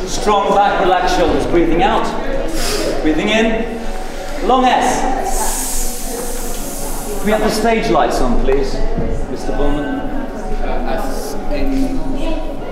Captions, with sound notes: Strong back, relaxed shoulders, breathing out, breathing in, long S (hissing). Can we have the stage lights on, please? Mr. Pullman?